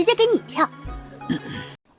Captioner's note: cough cough